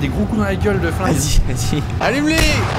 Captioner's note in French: rire